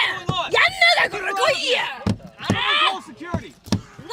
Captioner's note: speaking foreign language